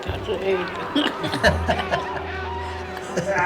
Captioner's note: laughing